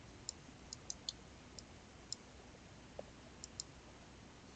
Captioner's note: mouse clicking